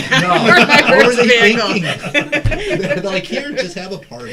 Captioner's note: all laughing